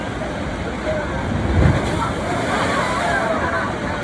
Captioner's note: waves crash - loudly! People talk excitedly!